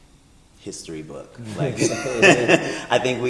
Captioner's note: both laugh